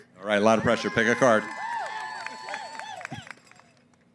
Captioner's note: cheering & applause